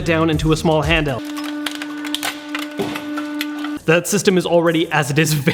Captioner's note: machine humming